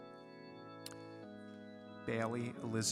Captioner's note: none